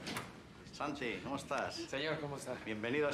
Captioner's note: bicara bahasa spanyol